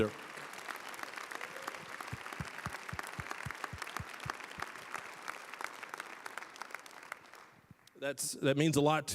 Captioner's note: applause